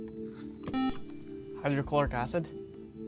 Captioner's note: buzzer